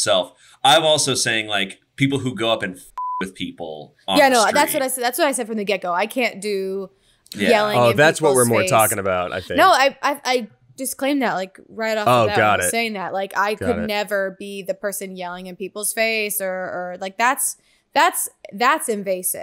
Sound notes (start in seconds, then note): 3.0 beep